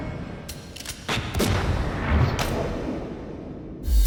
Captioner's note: gunshot